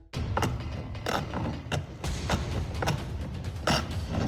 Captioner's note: sawing